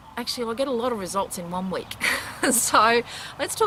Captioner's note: laughs